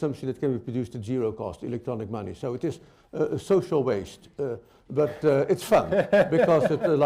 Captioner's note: laughter